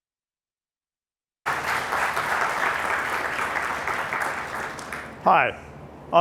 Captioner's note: applause